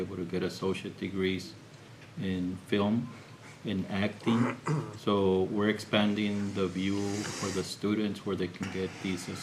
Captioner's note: clears throat